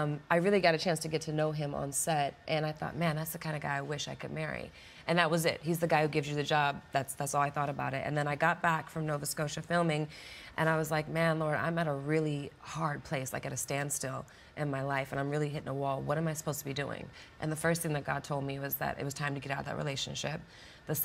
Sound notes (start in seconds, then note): none